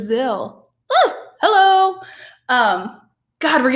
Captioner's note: yelp